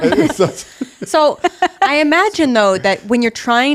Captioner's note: laughing